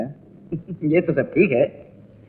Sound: laughs

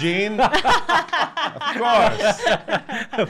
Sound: laughing

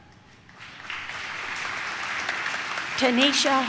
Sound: audience claps

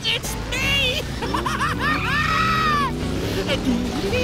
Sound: laughing

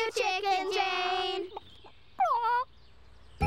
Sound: squawks sadly

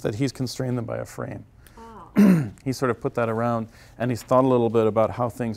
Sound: cough

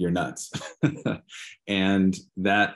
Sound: laughing

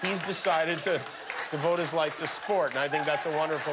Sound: laughter

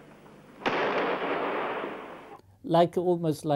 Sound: explosion sound

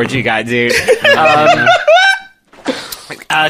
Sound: screech-laughs

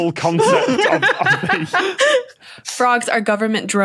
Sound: laughs profusely

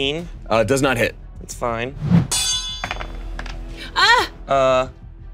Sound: whoosh, blade dings

